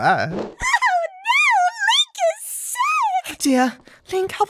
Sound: whiny

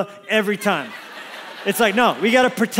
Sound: congregation laughs

